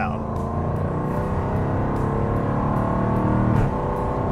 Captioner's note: engine roars